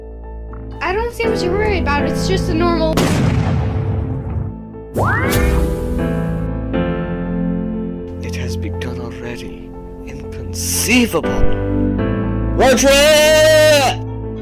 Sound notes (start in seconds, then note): 2.9 explosion; 4.9 mystical sound